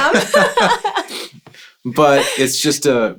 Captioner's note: laughing